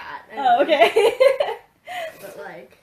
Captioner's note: laughs